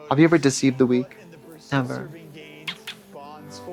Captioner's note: kissy sounds